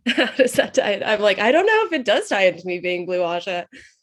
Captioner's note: laughs